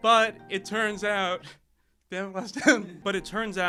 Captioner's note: laughter drowns out speaker